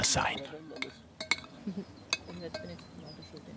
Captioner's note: clattering of dishes, quiet conversation